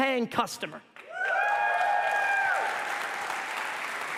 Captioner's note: applause and cheers